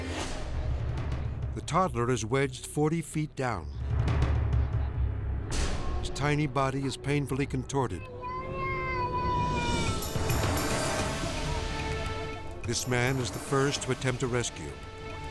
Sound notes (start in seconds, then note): 3.7 dramatic music; 7.9 child speaking in Chinese